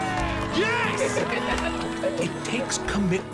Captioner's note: roars